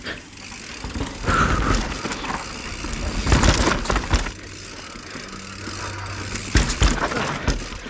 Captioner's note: heavy breath